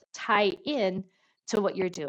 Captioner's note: none